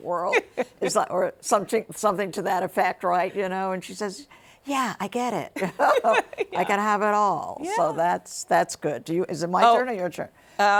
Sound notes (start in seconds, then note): 5.6 both laughing